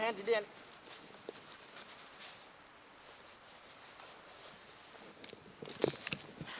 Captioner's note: knife rubbing; wood snapping